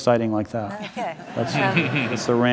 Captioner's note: audience laughs